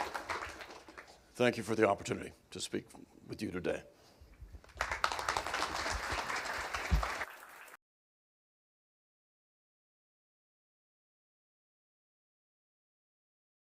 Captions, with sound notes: Thank you for the opportunity to speak with you today. *applause*